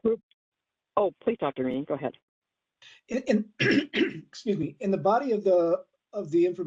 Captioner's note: cough